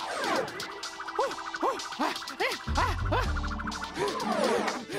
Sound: Digit breathes heavily

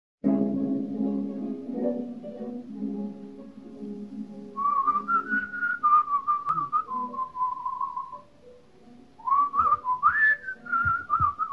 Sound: whistle

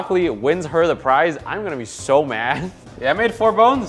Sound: laughs

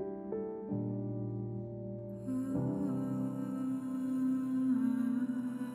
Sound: none

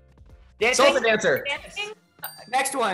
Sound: bell dings

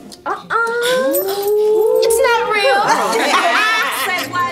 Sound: crowd murmurs; crowd laughs

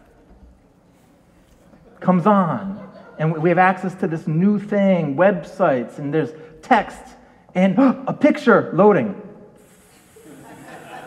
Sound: continues the dial up modem sound - more laughter; makes sound of picture slowly loading on computer screen - audience laughs

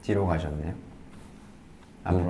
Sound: click

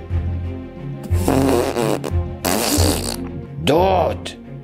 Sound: farting

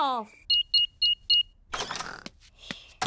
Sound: beeping

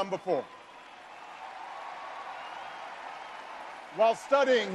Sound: audience cheering

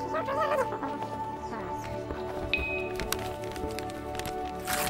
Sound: alien sounds; wrapping paper being ripped off

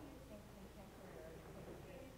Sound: speaking faintly

